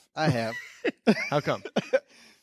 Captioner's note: laughing